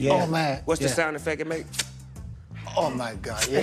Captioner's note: clicks teeth